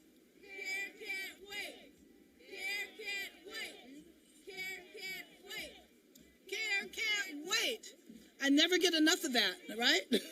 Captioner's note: cheering